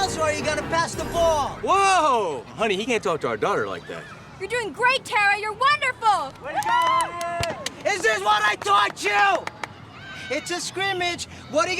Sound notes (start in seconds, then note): 6.4 crowd cheering